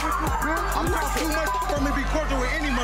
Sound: beep

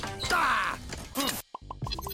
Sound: grunting; hearts popping

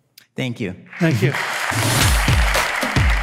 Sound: audience applause

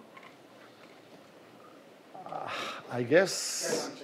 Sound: sighs

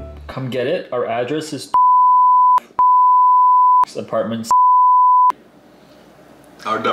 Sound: beep

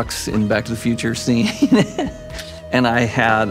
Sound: chuckles

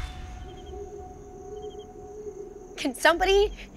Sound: owl hooting; anxious music

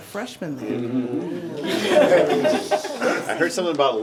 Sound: members laughing

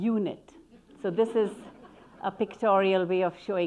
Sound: audience laughing

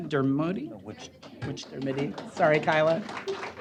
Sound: applause

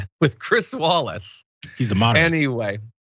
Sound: laugh

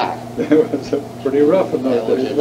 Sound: laughs

